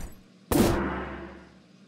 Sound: poof

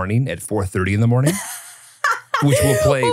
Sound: laughs

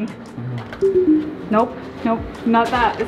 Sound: door beeping

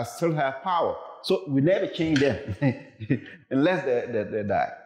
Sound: chuckles

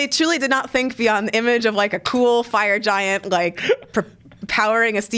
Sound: laughs

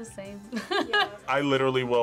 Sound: laughs

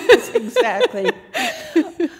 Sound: laughter

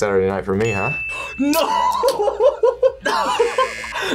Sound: laughs; buzzer rings

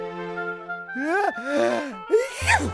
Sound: huge sneeze

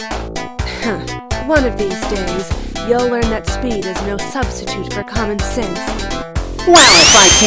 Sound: scoffs

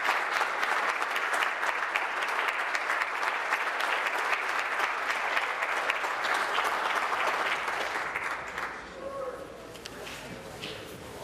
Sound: applause

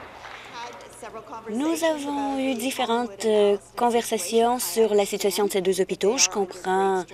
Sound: applause

